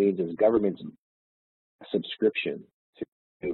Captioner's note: audio distorts